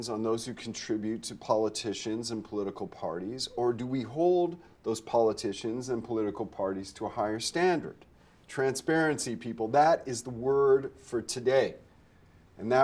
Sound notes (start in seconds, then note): none